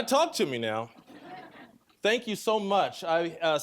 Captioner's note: audience laughing